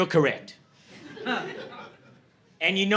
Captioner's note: laughter